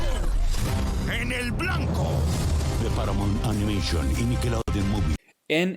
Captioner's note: speaking in Spanish